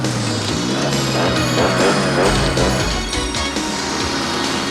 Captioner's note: motorbikes revving